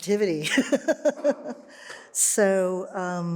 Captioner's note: laughs